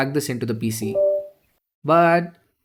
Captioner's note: USB Detected Sound